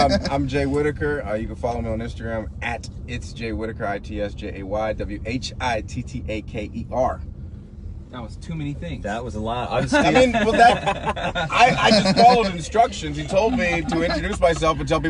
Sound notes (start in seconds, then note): 9.9 laughing